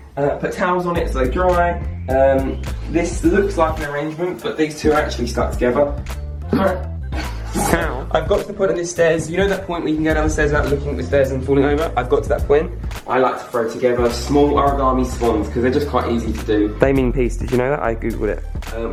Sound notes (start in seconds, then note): 7.1 laughs